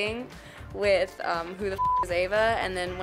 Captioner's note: beep